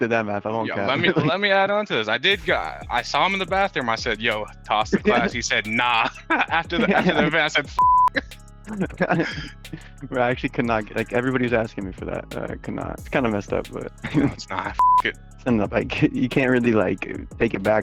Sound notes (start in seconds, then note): 7.7 beep; 14.7 beep